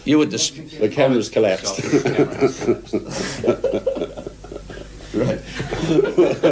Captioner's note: laughs